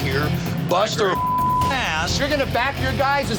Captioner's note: beep